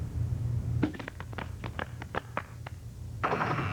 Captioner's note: door opening